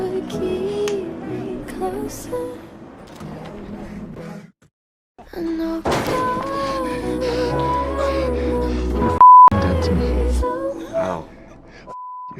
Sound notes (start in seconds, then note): 5.8 metal slamming; 6.5 heavy breathing; 9.2 beep